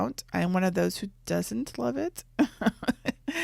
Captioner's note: laughs